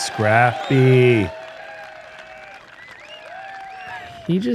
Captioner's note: cheering